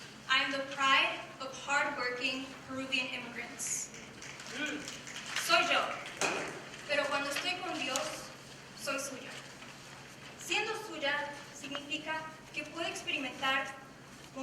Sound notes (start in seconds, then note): 4.4 snapping; 6.0 speaking in foreign language